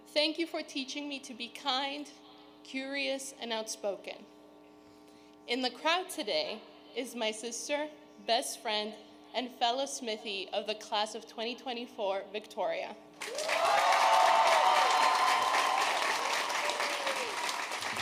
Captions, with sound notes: Thank you for teaching me to be kind, curious and outspoken. In the crowd today, is my sister, best friend and fellow Smithie of the Class of 2024, Victoria. (audience cheering)